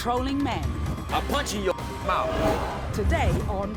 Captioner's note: beep